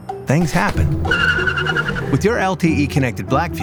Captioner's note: tires screeching sound